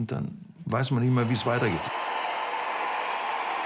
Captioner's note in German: Jubel